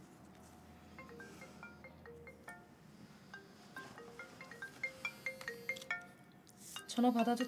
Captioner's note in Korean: 핸드폰 벨소리